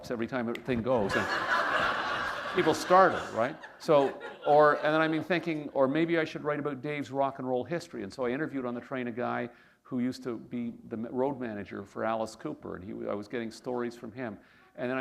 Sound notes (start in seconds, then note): 1.0 laughter